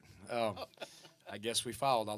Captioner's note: laughs